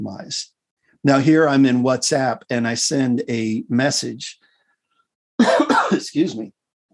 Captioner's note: cough